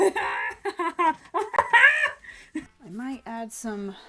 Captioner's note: maniacal laughter